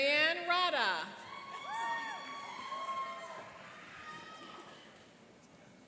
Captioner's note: cheering and applauding